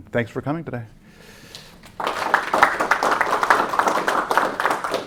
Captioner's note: applause